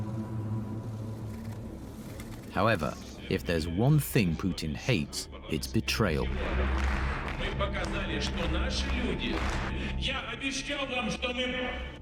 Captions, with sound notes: However, if there's one thing Putin hates, it's betrayal. (Vladimir speaks in Russian)